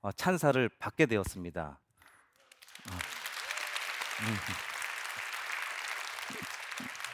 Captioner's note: applause